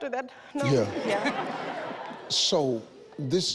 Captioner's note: audience laughs